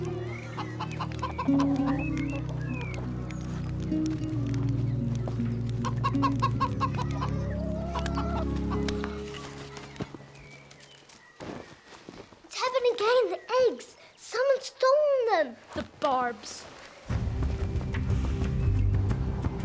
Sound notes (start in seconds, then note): 0.0 chickens clucking; 5.8 chicken clucking; 17.1 tribal music; 19.3 wind howling